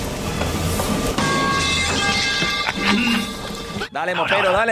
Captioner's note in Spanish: Golpe metálico